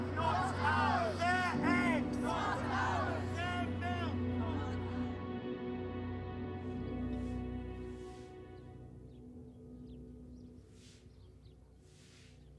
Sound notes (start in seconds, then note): 7.1 birds chirping